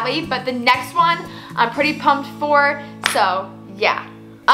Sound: claps

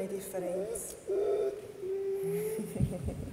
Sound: dog whimpers

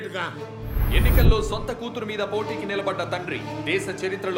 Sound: TV news

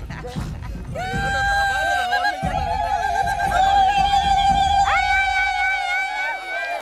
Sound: laughter & music; ululating

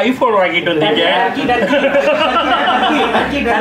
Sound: laughs

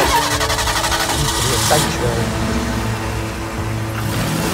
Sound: car engine starts

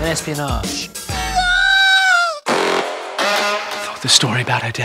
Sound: wails

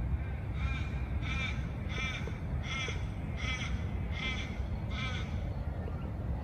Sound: a loud crow calls somewhere in the distance

